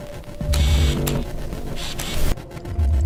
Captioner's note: distant bird cawing; camera lens whirring